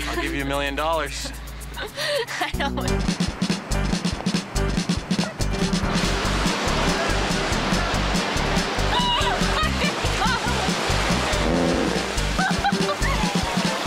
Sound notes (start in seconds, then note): 2.4 perky pop music; 8.9 laughs